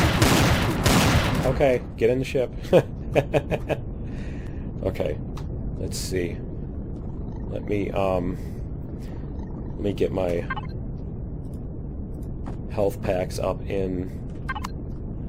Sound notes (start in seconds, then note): 0.0 sniper rifle; 5.4 laughs